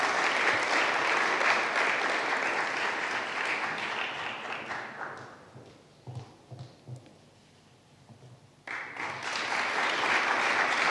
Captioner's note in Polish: oklaski